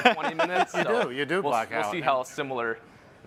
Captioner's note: chuckles